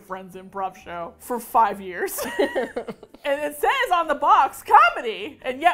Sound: both laugh

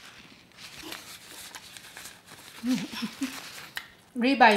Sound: paper crinkling

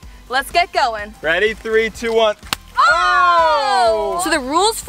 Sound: yelling

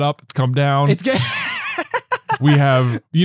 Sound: laughing

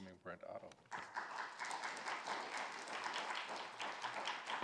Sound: attendees applauding

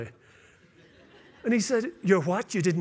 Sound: laughter

